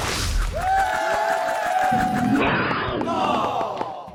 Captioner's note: cheering